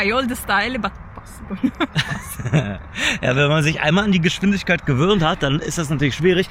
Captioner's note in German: gelächter